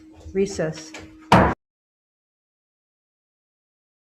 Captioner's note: gavel hit